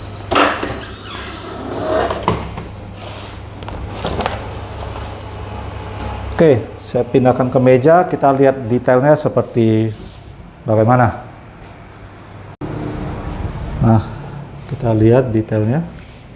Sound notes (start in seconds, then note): 0.0 press machine noise; 4.0 paper cover noise